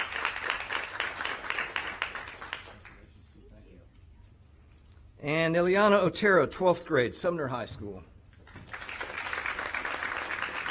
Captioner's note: applause